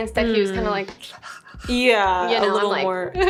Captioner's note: panting lightly